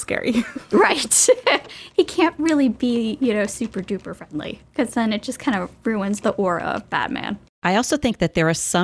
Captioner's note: chuckles